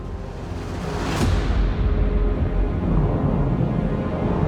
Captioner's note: explosion